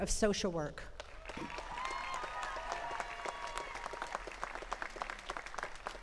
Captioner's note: attendees cheering and clapping